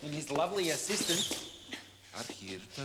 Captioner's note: shoes squeaking